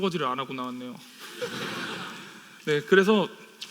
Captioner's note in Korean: 웃음